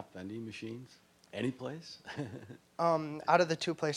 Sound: chuckling

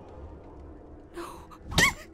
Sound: whispered

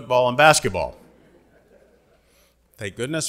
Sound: audience laughing

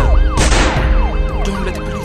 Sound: gun shot

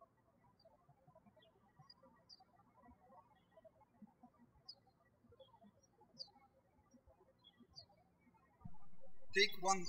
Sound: birds chirping

